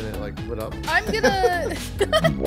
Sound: DJ laughing

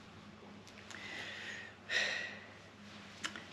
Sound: exhales

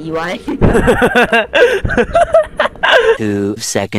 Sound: laughing

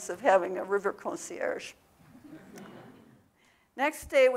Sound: audience laughing

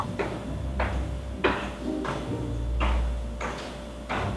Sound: loud footsteps

